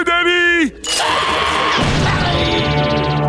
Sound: screaming

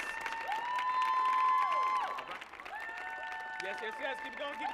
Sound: audience cheering and applauding

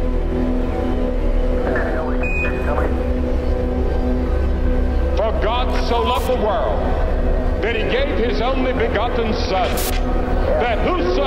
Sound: telemetry sounds

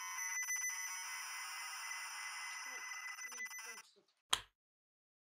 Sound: electronic screeching

